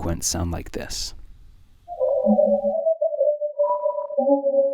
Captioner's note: electronic sounds